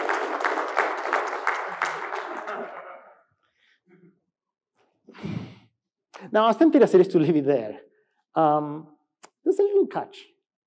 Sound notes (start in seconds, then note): 2.2 laughs